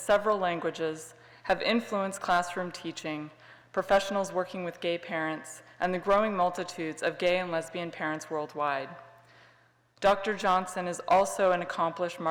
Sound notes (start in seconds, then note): none